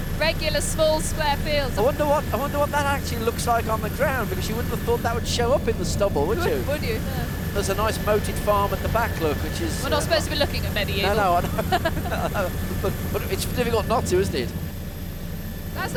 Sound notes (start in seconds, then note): 12.2 both laugh